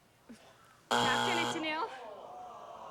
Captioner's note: buzzer; audience groans